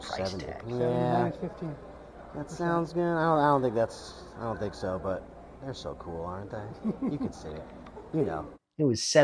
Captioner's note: laughs